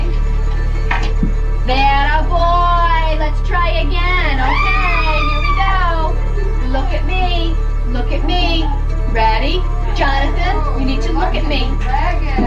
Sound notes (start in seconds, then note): 5.9 yelling